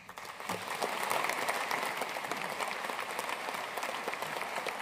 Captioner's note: audience applauding